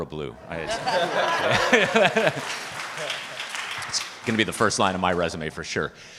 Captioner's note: participants laughing and applauding